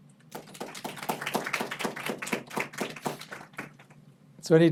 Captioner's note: people clapping